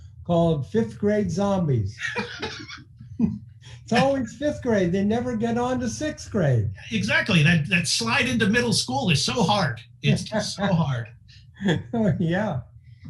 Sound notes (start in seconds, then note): 1.9 laughing; 11.6 laughing